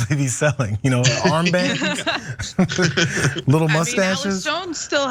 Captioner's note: laugh